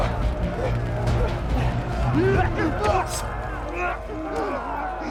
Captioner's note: shouting, groaning